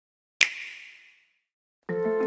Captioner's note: snap